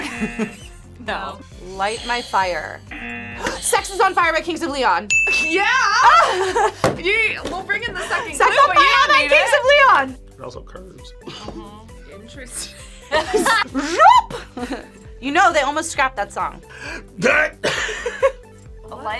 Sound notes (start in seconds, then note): 0.0 buzzer; 0.0 both laugh; 2.8 buzzer; 2.8 buzzer rings; 3.4 gasps; 5.0 bell rings; 5.9 laughs; 11.2 laughs; 17.2 laughs